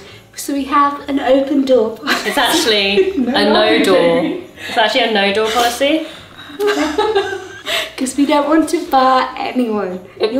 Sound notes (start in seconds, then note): 6.4 laughing